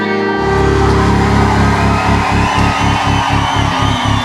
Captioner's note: loud applause